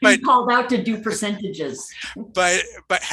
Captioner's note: laughing